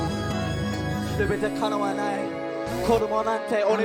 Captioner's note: in Japanese